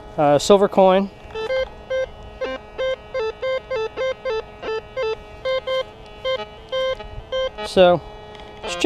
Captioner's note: detector beeps